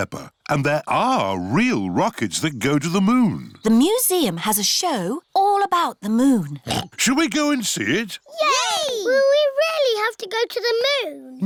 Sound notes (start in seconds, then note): 6.6 oinks